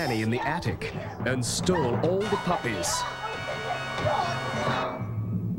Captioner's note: fighting and shouting